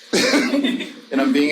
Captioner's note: audience laughing; laughs